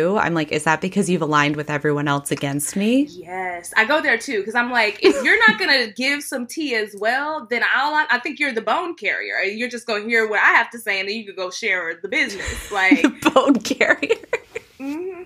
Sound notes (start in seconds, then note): 12.4 laughing